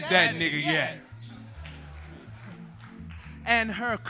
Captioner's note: audience laughing